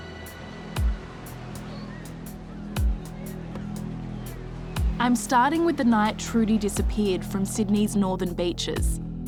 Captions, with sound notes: (suspenseful music) (waves whooshing) I'm starting with the night Trudie disappeared from Sydney's Northern Beaches.